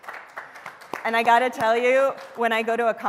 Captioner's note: applause